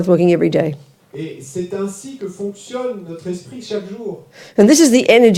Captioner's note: French